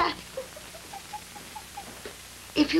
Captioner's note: jill stifles laughter